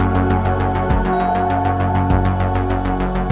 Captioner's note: she rings the doorbell